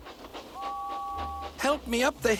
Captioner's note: toot